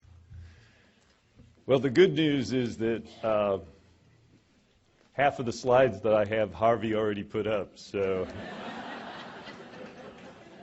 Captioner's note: laughter